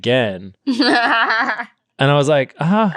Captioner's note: laughing